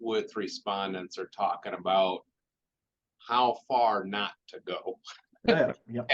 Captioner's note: chuckles